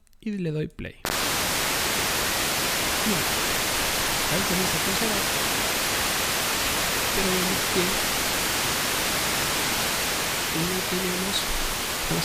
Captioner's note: radio and speaker voice